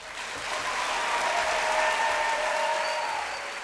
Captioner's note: applause